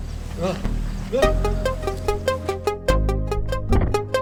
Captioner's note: Mitch groans; body thuds